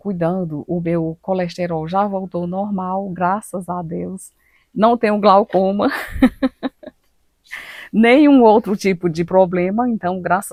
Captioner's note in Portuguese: risadas